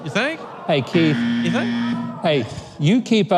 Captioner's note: buzzer sound